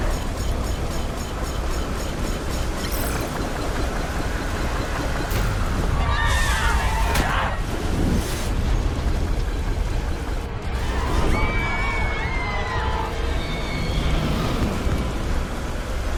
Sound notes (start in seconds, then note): 0.0 dramatic music; 0.0 machine beeping; 5.8 people screaming; 5.9 dramatic music; 10.8 Becky screaming